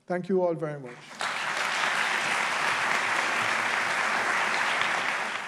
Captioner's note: applause